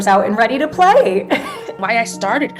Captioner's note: laughter